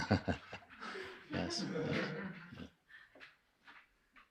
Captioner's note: nevetés